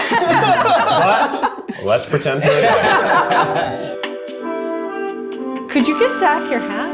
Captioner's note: everyone laughs